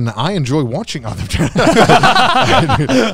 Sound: everyone laughs

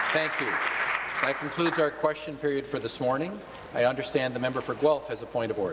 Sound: applause

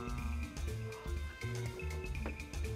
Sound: gasps

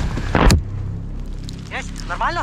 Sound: explosion

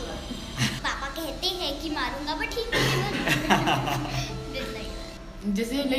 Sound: laughs

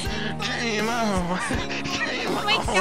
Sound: continues laughing; starts laughing

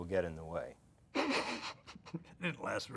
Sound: laughing

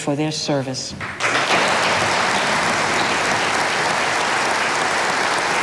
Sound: audience applauding

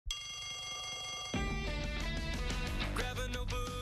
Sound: bell rings

